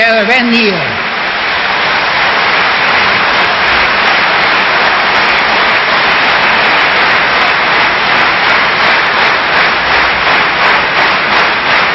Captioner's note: applause